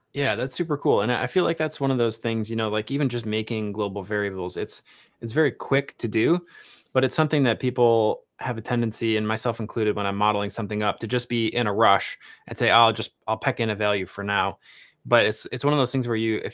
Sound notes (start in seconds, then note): none